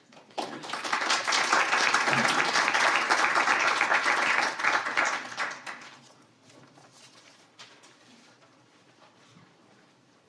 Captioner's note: applause